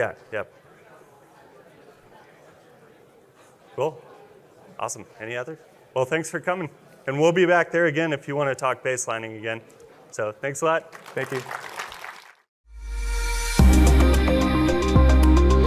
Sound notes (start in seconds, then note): 10.8 audience applauds; 12.9 lively music